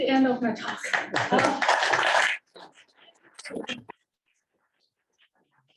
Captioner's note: applause